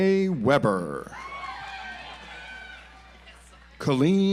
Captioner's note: audience applauds